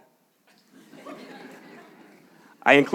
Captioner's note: audience laughs